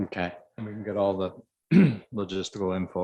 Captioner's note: clears voice